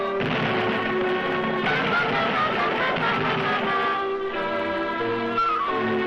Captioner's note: dramatic music continues; stone crashing; suspenseful music